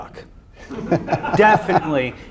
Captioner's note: audience laughs